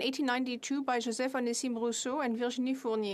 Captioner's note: speaking French